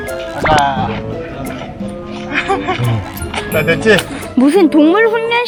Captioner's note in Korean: 웃음